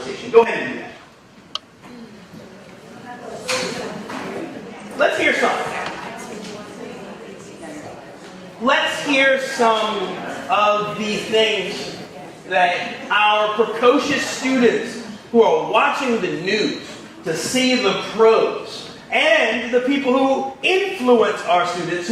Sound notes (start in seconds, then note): 3.1 audience chattering